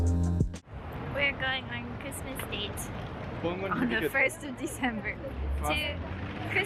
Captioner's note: laughs